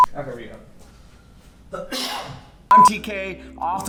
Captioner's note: coughing